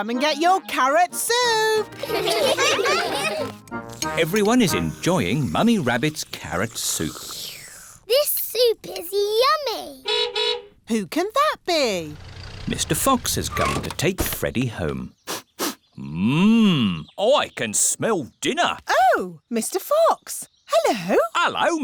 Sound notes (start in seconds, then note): 1.9 all giggle; 7.3 slurps; 10.0 horn toots; 15.2 sniffs